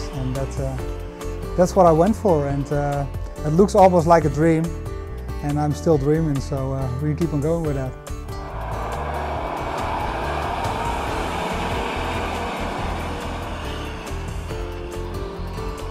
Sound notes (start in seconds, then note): 8.4 truck engine revving; 13.3 soft music